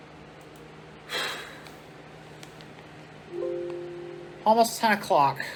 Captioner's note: sighs; computer sound